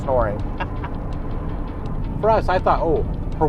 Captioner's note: laughing